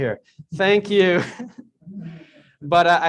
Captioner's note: chuckles